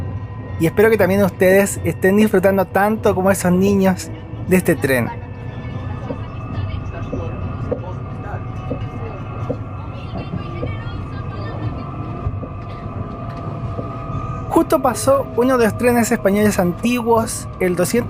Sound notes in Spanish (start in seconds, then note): 5.8 voz de tren: estación Hospital